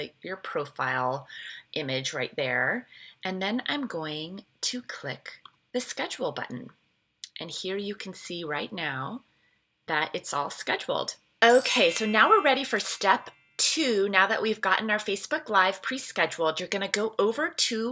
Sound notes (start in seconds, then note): 11.5 bell chimes